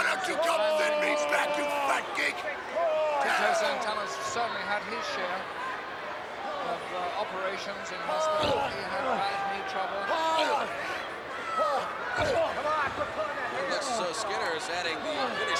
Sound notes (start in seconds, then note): 3.0 wrestlers grunting